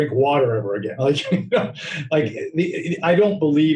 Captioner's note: laughing